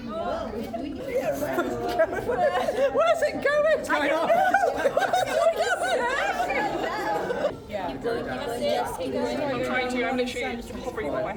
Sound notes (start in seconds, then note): 7.0 crowd chattering; 7.0 laughing